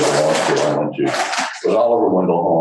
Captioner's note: background rattling